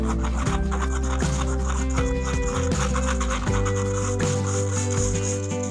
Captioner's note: laughs